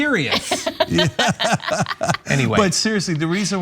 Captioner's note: laugh